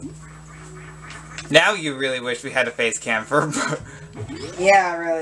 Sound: laughs

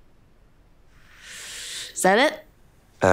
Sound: exhaling

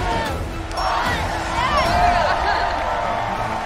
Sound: cheering

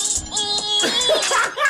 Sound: laughing

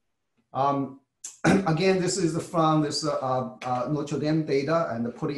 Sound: cough

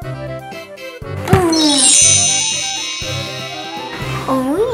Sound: wand chimes

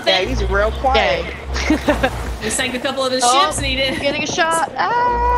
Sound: laugh

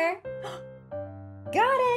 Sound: gasp

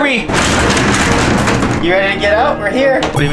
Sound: door rattles

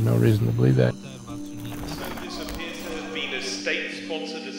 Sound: indistinct chatter

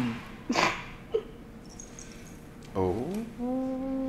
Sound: Andy snickers

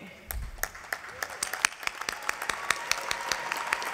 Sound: applause

